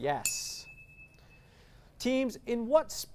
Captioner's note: ding